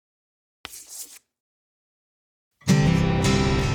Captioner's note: pen scratching; lively music